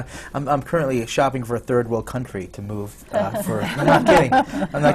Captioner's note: laughter